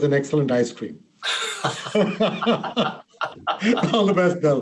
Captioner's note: members laugh